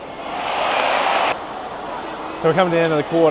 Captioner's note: crowd cheering